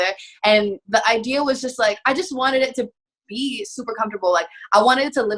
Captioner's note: none